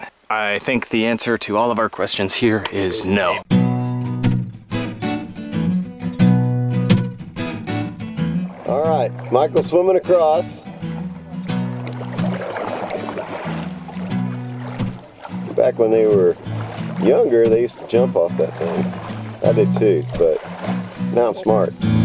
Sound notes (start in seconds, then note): 3.7 light upbeat music; 11.0 water splashes